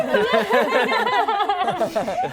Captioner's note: laughter